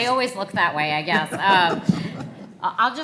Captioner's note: everyone laughs